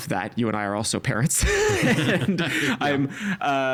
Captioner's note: both laughing